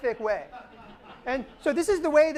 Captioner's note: laughter